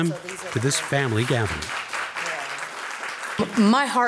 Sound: audience applauding

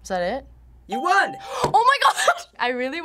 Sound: gasps

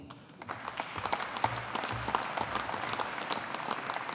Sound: audience applauding

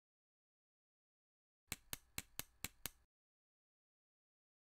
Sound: clicking

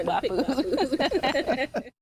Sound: laughter

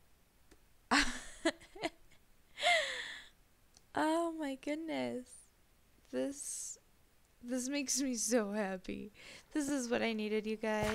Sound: laughs

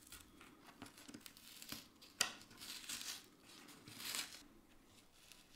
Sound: paper layer crunching

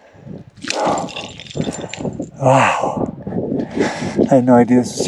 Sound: stones clattering

